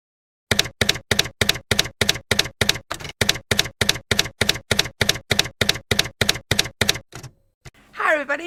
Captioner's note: typewriter keys clacking